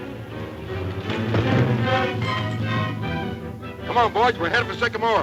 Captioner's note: crash